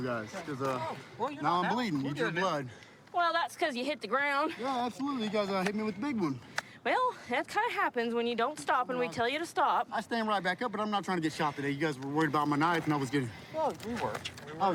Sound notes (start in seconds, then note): none